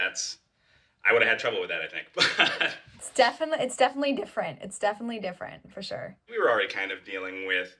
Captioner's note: laughs